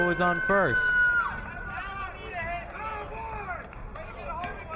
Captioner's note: crowd cheering